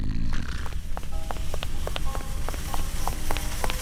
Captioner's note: snores